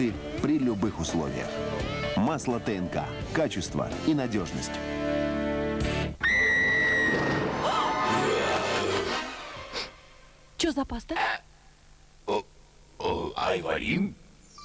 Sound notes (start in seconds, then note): 6.1 sniff; 6.2 scream